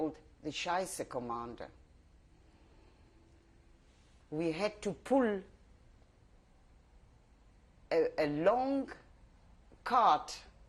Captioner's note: pauses for 3 seconds